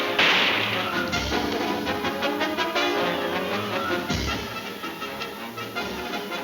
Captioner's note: guns firing; dramatic music; dramatic music continues